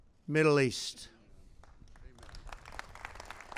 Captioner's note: applause